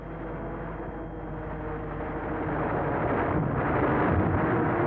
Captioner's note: plane engines roaring